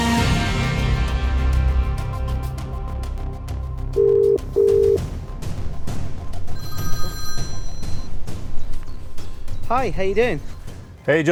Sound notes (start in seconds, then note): 3.5 ringing tone; 6.5 phone ringing